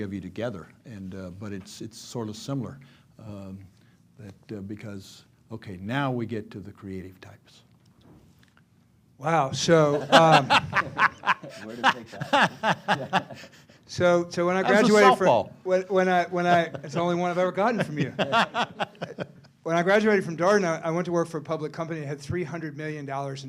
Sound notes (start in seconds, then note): 9.9 laughter; 17.6 laughter